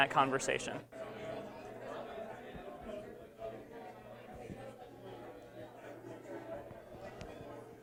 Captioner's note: background Discussion